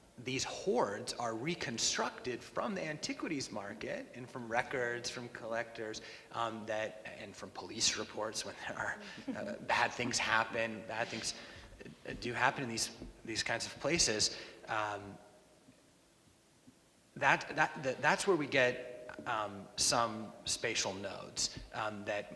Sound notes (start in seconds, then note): 9.0 laughs